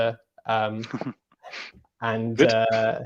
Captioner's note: laughs